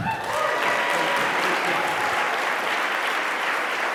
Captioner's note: audience applauding